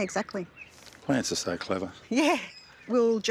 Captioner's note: chuckles